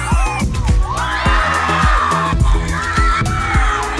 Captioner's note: explosions and cheering